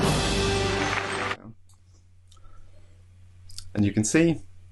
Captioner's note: audience applauds